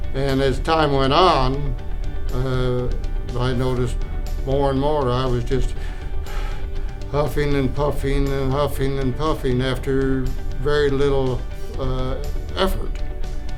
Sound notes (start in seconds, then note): 5.7 takes a breath